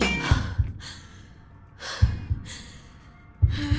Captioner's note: heavy breathing; pulsating drum beat